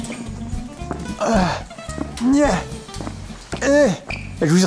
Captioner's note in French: gémissements dus à l'effort physique